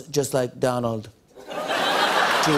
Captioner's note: laughter